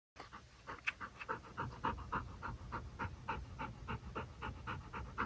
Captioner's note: gasping rapidly